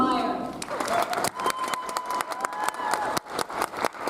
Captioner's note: audience applauds